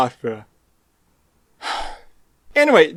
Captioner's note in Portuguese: suspiro